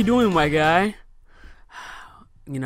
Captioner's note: sigh